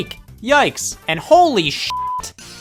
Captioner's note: beep